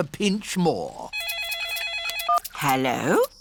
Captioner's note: phone rings